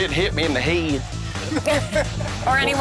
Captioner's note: lalaugughthterer